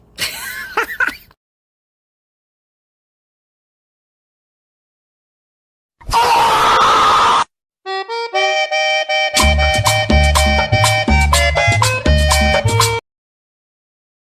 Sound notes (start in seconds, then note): 0.2 laughs; 6.0 loud scream